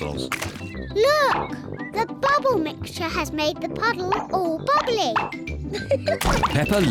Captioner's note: laughs